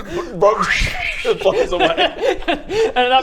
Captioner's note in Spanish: shhshhshhshhhhhsh